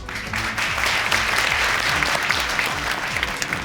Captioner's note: audience applauding